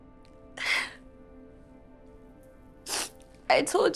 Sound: sobs, sniffs

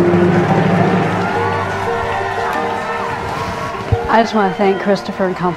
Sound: audience applauding; audience cheering

